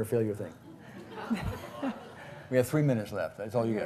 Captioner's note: laughing